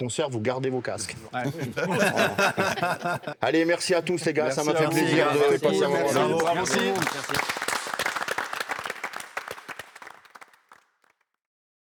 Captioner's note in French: rires; applaudissements